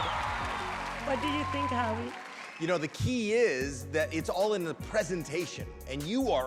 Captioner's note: cheering